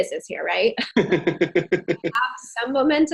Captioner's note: laughing